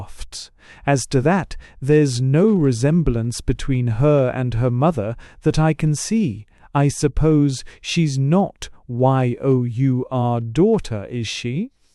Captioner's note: recovering himself with an effort and speaking gently and gravely